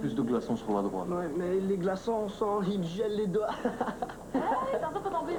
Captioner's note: Rire